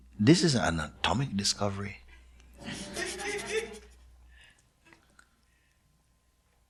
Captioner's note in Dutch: gelach